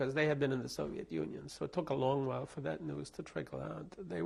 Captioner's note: none